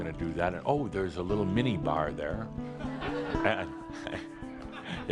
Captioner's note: laughter